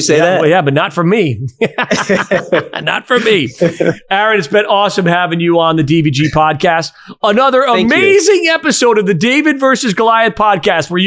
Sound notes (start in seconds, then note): 1.6 both laughing